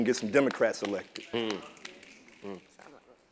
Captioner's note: applause